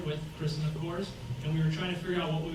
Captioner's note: none